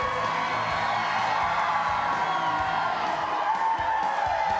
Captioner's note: crowd cheering